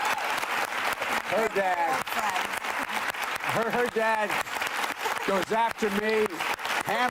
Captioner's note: applause